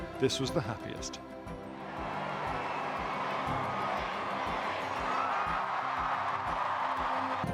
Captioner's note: crowd cheers